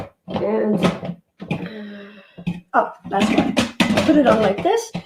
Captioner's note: sighs